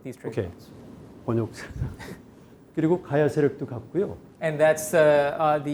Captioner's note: speaking in Korean